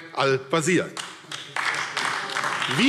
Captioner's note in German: Beifall AfD